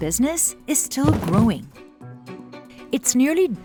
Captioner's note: boxes thudding